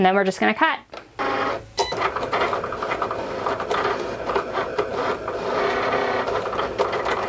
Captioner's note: Cricut beeping; Cricut whirring